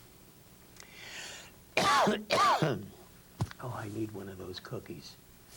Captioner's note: coughs